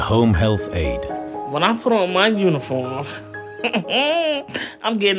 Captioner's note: laughs